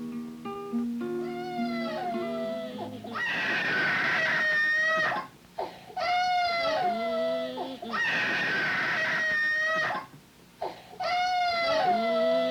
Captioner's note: baby crying